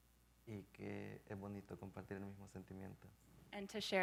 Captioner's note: speaking in Spanish